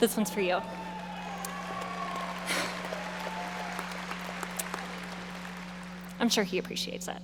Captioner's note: audience applauding and cheering